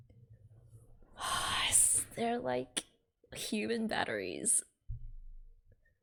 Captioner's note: exhales